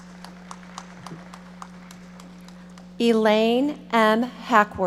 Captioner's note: audience applauding